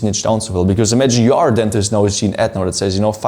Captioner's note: murmurs